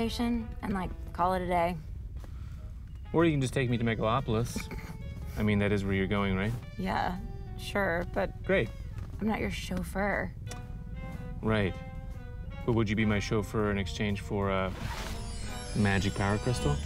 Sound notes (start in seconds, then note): 4.0 scoffs